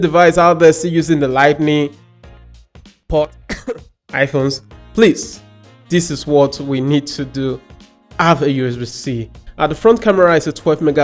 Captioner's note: coughs